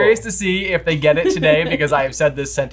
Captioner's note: chuckles